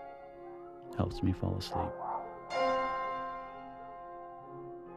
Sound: muffled shouting; haunting and expressive piano

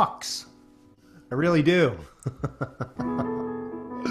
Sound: laughs

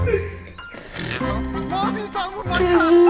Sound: grandma snores

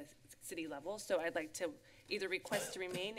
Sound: coughs

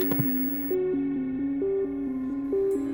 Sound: TV suddenly turns on

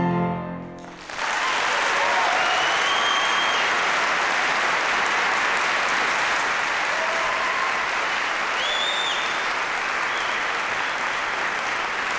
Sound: applause, cheering; applause

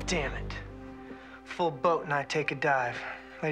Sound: none

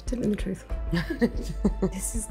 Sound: laughter

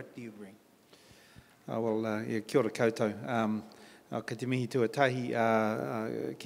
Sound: in Maori

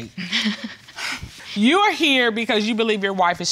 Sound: laughs

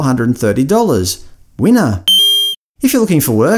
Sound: ding

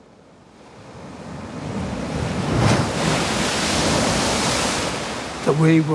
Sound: waves crashing

